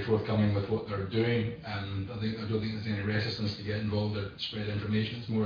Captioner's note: audio distorts